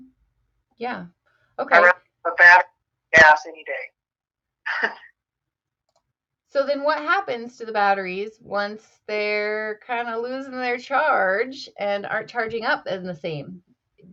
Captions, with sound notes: - Yeah, okay. - Or a battery gas any day. (chuckles) - So then what happens to the batteries once they're kinda losing their charge and aren't charging up as the same?